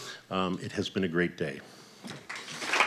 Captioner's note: applause